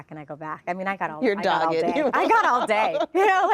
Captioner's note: laughing